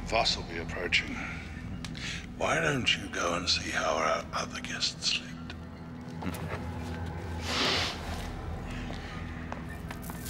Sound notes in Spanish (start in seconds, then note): 6.3 Xax riéndose